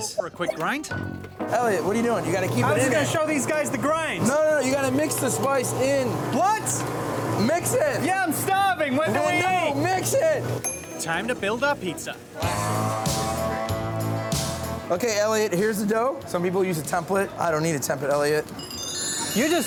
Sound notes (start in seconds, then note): 10.6 bell dings; 12.4 steady country music; 18.5 chimes twinkle